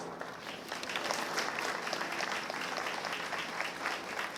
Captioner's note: applause